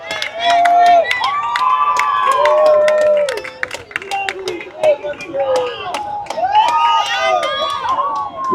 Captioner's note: cheering